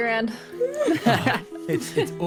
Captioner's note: laughter